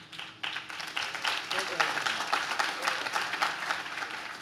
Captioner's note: audience claps